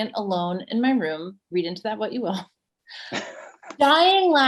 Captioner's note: laughs